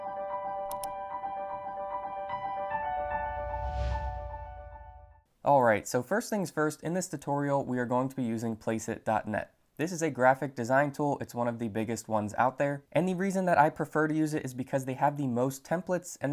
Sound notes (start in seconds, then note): 3.2 air whooshing